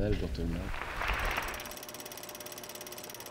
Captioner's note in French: applaudissements